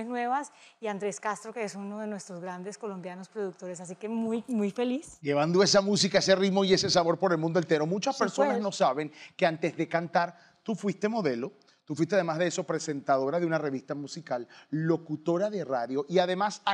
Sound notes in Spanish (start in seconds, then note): none